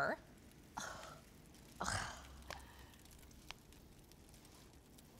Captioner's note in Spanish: suspiro